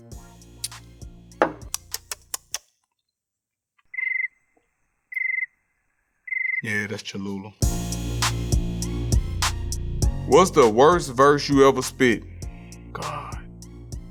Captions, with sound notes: (lips smacking) (cricket chirping) Yeah, that's Cholula. (intense music) What's the worse verse you ever spit? God...